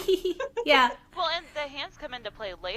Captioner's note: laughter